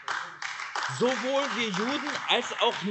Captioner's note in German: Beifall AfD